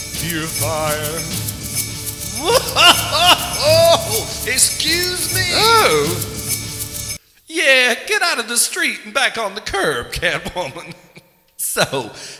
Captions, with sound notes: fear fire (laughing) excuse me? oh.... yeah, get out of the street and back on the curb, Catwoman so